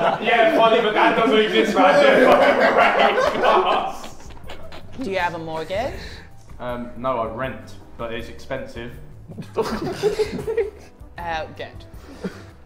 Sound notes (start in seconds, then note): 0.0 Sidemen laugh; 9.2 Sidemen chuckle